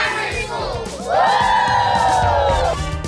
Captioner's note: all cheer